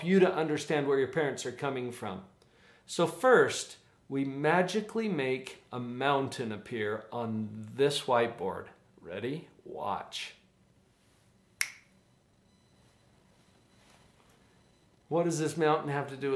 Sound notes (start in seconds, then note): 11.6 snaps